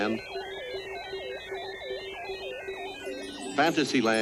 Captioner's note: electronic whirring and beeping